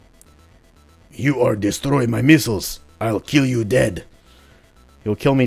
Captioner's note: exaggerated russian accent